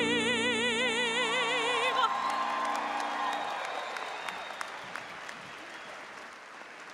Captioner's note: audience cheering; audience applauding